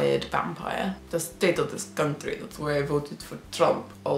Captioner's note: Transylvanian accent